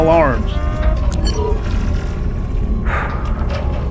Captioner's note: device buzzes; Hawk exhales